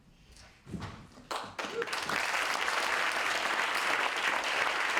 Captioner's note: audience applauding